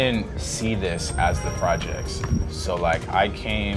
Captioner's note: car horn honking